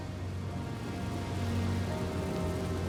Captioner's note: rushing water